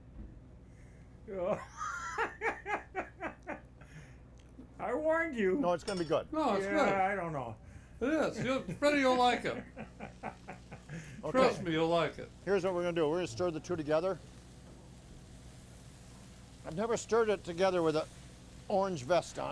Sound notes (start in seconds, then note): 1.3 laughing; 8.1 laughing; 13.1 food sizzling